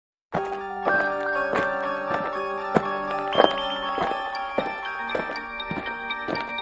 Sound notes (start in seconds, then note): 0.3 spooky music; 0.8 footsteps marching